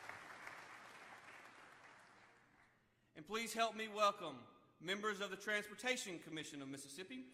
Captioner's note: applause